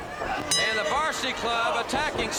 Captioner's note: bell ringing